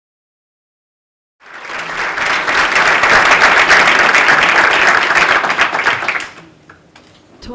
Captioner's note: applause